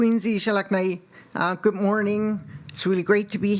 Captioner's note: speaking Indigenous Language